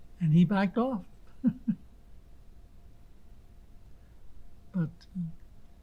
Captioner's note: laughing